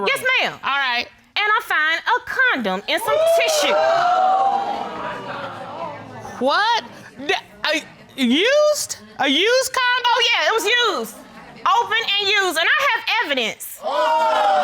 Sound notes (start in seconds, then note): 3.0 audience exclaim; 7.0 stammers